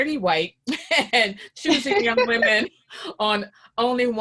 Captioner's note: laugh